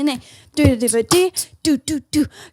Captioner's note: beatboxes